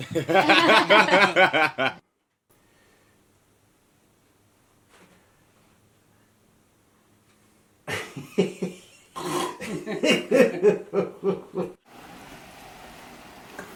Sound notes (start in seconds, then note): 0.0 everyone laughing; 8.0 man laughing; 8.0 man snoring